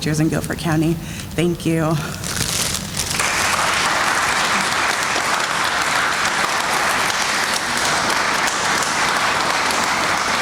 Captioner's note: sounds of applause